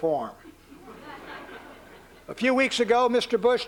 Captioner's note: laughter